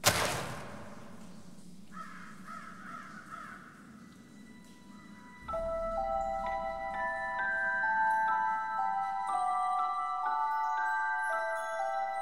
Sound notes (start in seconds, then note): 0.1 slippers thud; 1.8 crows cawing; 5.1 eerie music